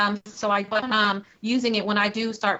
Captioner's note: technical interference